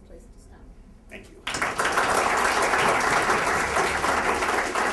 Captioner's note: applause